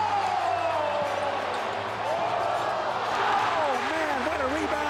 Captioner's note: crowd cheers